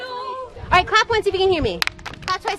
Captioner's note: claps